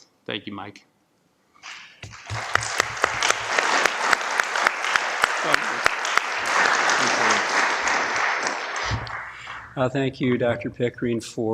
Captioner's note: applause